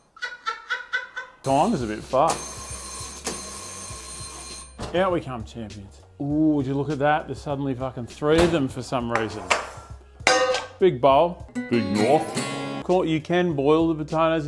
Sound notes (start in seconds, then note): 0.1 laughs; 2.3 oven timer continues to buzz obnoxiously